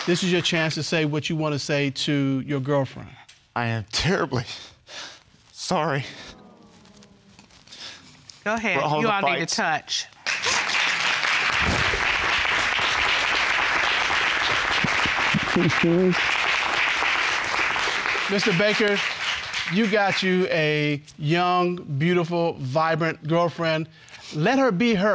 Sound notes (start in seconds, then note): 4.5 sniffles; 11.0 both sobbing